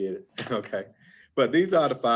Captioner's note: chuckles